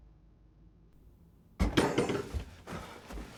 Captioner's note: door rattles open; breathing heavily